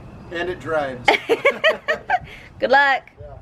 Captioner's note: they both laugh